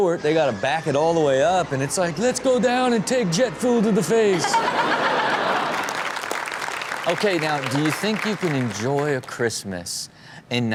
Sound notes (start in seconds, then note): 3.4 Chanel and audience laughing; 6.6 audience applauding